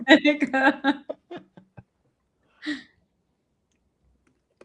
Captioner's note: laughing